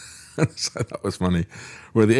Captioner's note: laughs